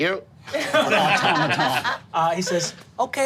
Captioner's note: group laughing